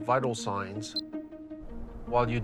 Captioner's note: device beep